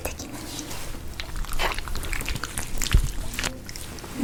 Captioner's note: sound of applying sauce